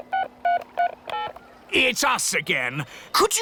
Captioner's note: dialing